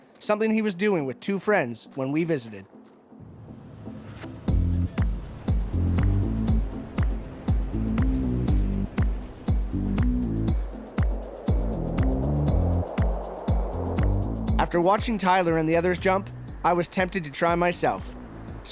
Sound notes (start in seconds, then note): 5.1 upbeat music playing; 7.3 sound of plane; 11.0 wind noises